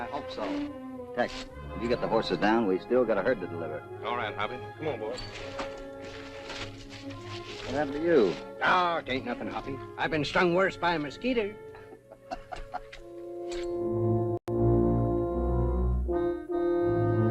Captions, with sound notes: You got the horses down? We still got a herd to deliver. All right, Hoppy. Come on, boys. - What happened to you? - Ain't nothing, Hoppy. I've been strung worse by a mosquito. [ LAUGHS ] [ BROODING MUSIC ]